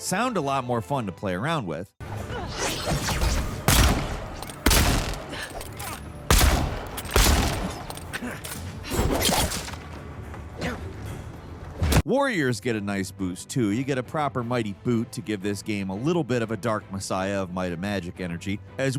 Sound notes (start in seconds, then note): 2.5 sound effect whooshing; 2.7 guns firing